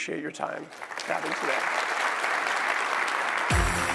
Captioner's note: applause